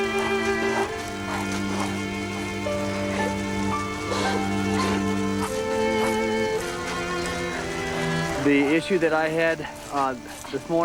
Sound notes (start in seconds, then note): 2.6 crying softly